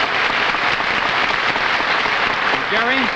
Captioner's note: audience applauding